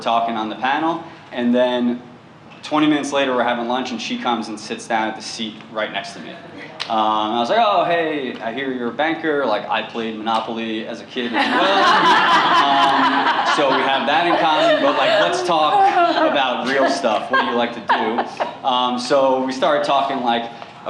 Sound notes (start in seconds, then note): 11.2 laughter